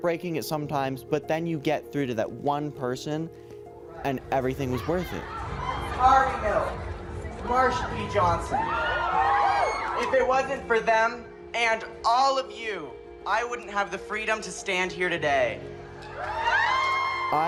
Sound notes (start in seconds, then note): 5.2 cheering; 16.0 cheering